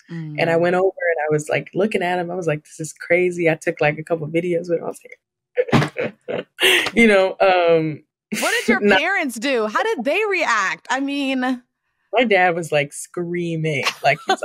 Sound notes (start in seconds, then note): 5.6 laughs